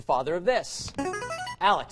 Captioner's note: buzzer